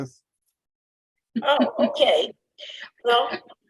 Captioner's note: chuckles